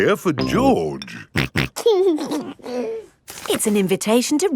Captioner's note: snorting and giggling